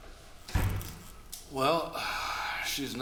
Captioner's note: door closes